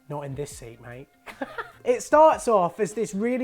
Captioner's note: hysterical laughter